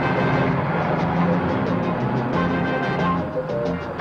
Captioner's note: engine whirring; upbeat music